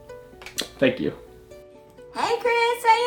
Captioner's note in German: Kuss-Schmatz